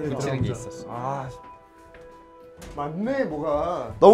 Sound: door opens

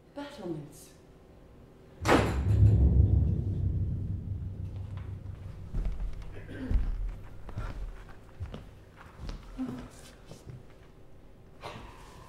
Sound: door slams

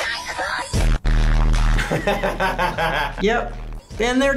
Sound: laughs

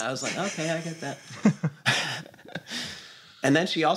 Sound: laughter

